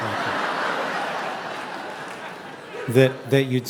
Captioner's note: audience laughing